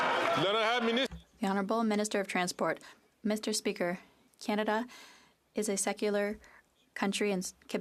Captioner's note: some Applause